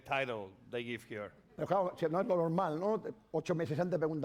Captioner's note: speaking spanish